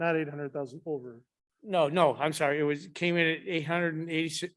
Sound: none

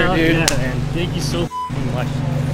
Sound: beep sound; beep

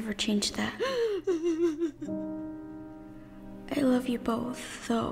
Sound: mother crying

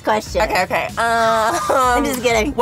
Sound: laughing

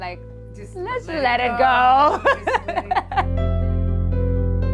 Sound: laughs

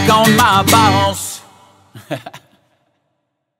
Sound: laughs

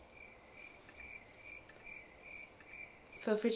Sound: crickets chirping

